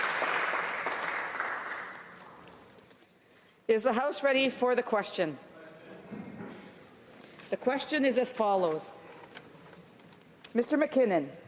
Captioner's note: applause